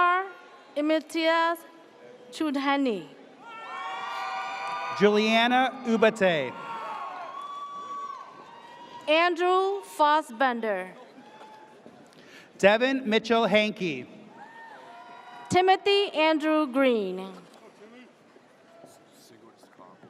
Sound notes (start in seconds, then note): 3.5 audience cheers